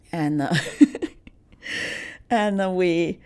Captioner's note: laughs